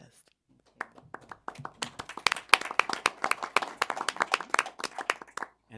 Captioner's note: applause